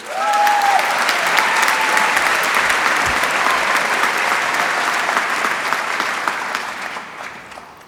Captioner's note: applause